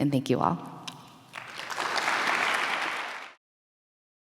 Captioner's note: applause